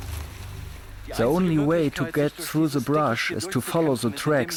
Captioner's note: in German